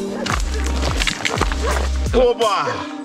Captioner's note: footsteps